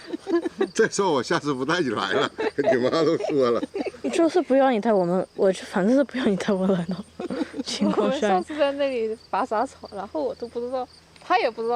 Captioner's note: chatting